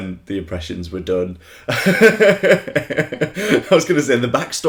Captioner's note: laughter